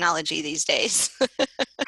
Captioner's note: laughter